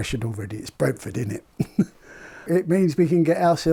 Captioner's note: chuckles